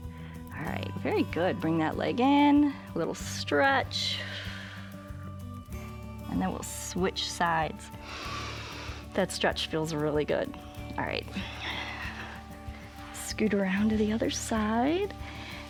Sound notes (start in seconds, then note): 4.2 exhales; 8.0 inhales